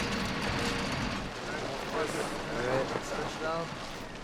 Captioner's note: indistinct chatter